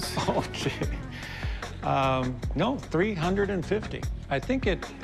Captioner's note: laughs